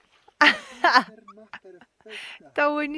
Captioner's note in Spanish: risas